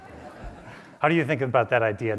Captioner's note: audience laughs